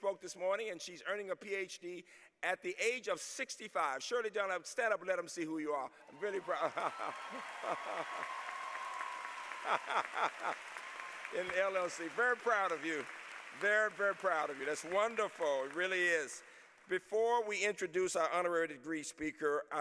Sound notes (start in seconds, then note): 5.8 laughter